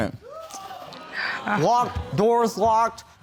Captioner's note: audience exclaiming